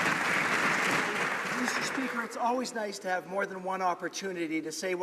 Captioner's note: some Applause